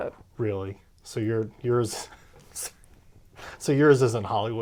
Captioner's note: laughs